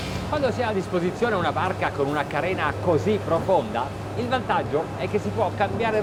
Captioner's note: speaking in foreign language